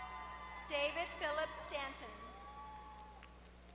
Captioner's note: applause; applause